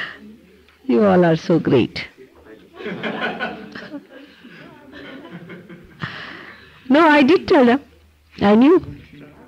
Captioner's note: laughter, She laughs